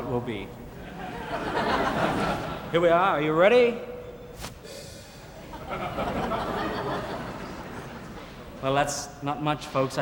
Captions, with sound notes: Yellow it will be. (audience laughing) Here we are, are you ready? (handkerchief rustling) (audience laughing) Well, that's not much, folks.